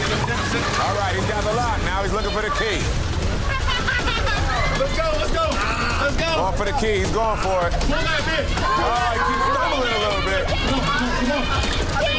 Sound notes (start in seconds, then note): 3.4 laughing; 9.5 contestants shouting